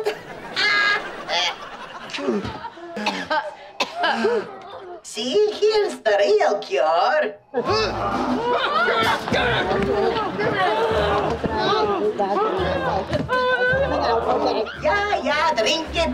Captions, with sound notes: [laughing] [coughing] See, here's the real cure. [groaning] Gimme it, gimme it! Gimme it! [groaning] Yeah, yeah, drink it down